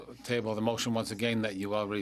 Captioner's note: speaking French